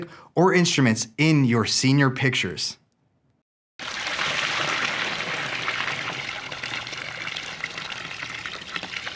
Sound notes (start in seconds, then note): 3.8 water pouring